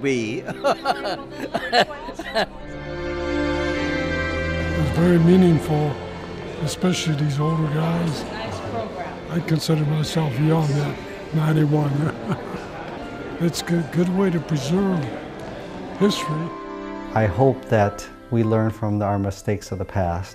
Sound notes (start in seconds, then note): 2.9 laughs